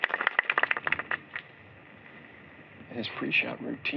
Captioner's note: applause